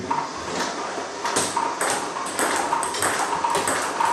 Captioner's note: ball ping pong hitting